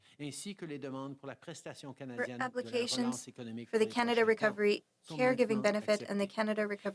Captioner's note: speaking French